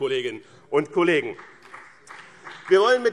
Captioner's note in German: Beifall BÜNDNIS 90/DIE GRÜNEN und vereinzelt CDU